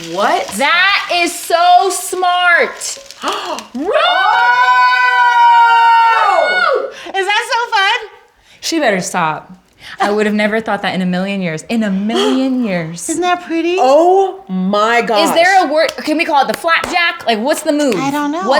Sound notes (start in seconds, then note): 3.0 yelling; 3.2 gasps